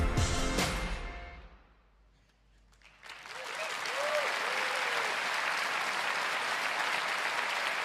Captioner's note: applause